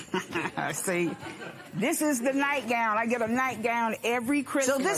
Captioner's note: laughs